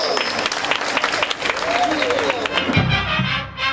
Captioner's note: applause